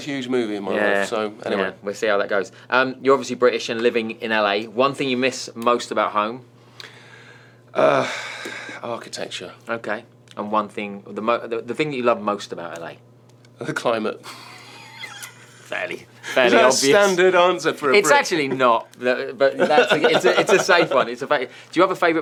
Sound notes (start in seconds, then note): 14.2 laughs